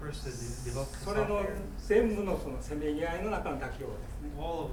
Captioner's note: speaking in foreign language